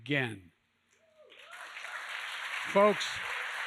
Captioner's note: applause